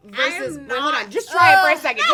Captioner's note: groans